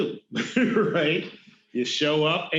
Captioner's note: laughing